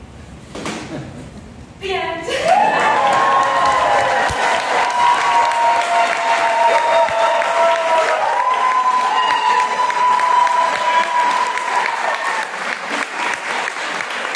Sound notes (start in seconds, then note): 3.2 audience claps and cheers